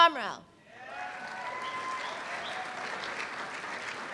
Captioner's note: applause